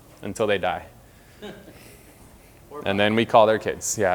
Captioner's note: audience laughter